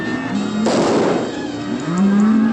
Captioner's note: gunshot